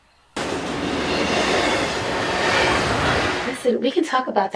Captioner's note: train rattling